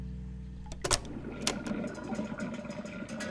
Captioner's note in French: cliquetis métalliques